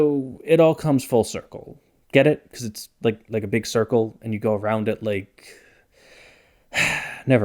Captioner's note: sigh